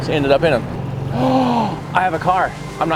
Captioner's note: gasps